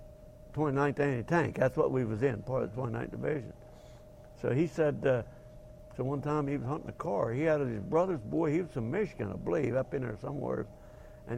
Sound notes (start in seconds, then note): none